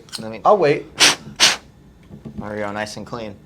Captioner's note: air blowing